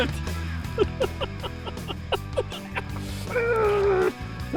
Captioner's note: laughter